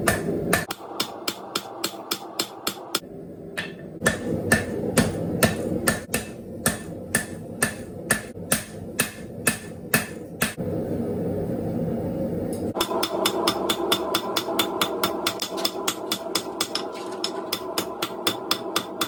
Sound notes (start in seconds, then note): 12.7 hammering